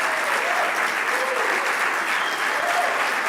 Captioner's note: applause; cheering